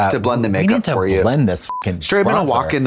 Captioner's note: beep